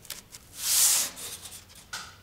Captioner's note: low rustling